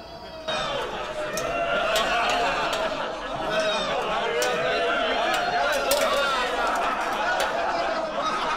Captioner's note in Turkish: Gülme sesleri